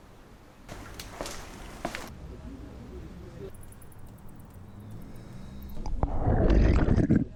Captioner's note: foot steps